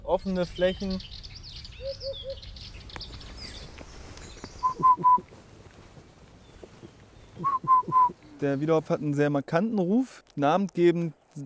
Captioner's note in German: pfeifendes imitieren des Vogelrufes